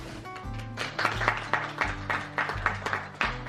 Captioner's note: applause